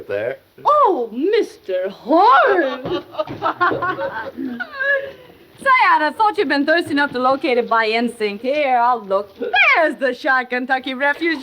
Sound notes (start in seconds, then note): 2.5 both laughing